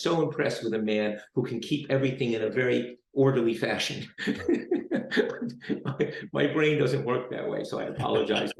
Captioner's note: laughs